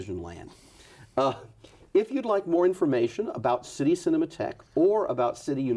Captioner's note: chuckles